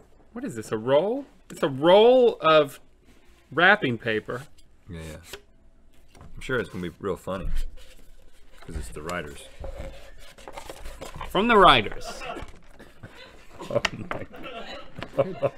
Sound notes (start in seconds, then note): 12.8 laughter